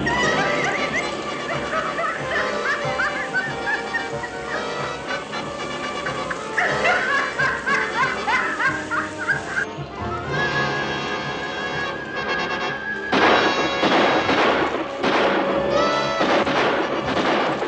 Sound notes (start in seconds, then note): 0.5 cackling; 13.1 gunfire